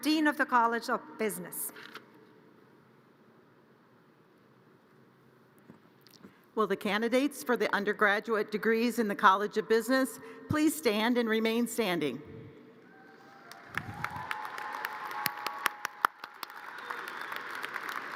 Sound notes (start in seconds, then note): 12.9 audience cheers and applause